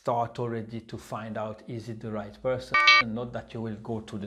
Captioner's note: alarm sounds